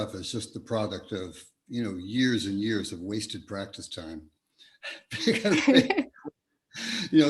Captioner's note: both laugh